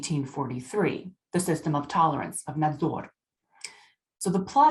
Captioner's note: speaking russian